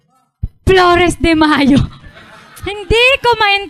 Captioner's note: laughter